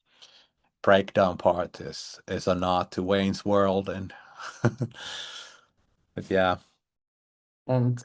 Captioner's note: laughs